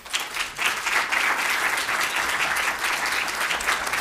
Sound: applause

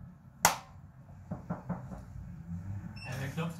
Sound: knocking

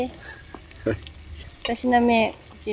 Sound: laughs

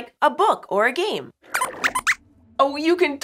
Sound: squeaks squeaks

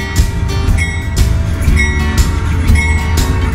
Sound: train bell

